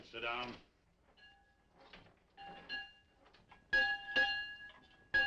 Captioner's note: bell ringing